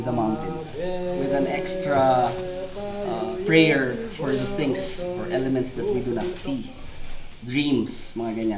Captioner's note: chanting in background